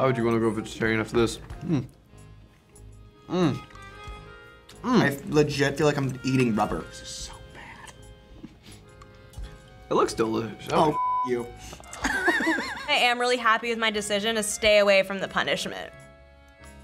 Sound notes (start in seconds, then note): 11.9 laughs